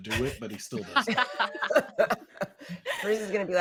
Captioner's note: all laughing